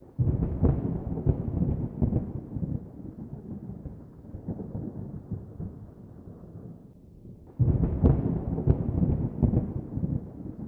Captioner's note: thunder